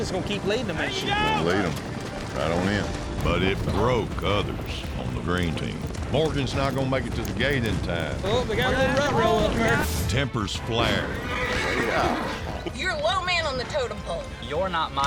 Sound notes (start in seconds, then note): 10.2 all shouting; 12.0 horse neighs, thud